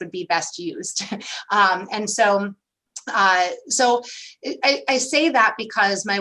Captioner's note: laughter